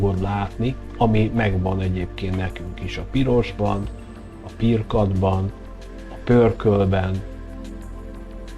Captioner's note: in Hungarian